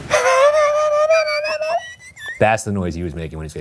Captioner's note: imitates whistling